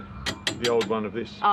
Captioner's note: taps railing